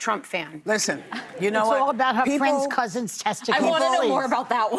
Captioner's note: laughter